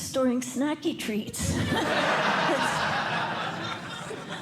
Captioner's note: laughter